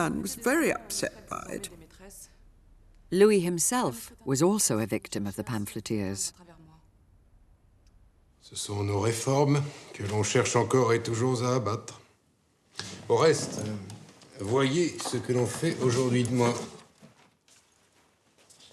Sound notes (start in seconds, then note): 8.7 people speaking in French